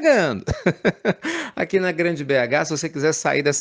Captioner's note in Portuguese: risadas